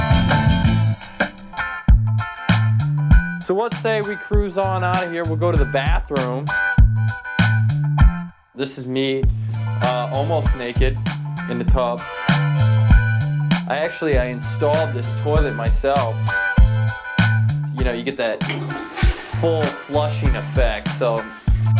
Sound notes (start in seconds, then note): 0.0 funky beat; 18.1 toilet flushing